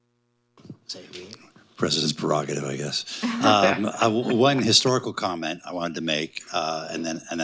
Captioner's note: laughter